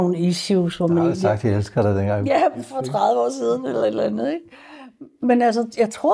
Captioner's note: chuckles